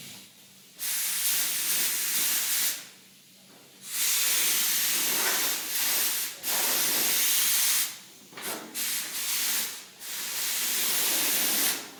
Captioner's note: spraying